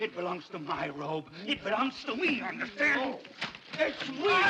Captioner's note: grunting & struggling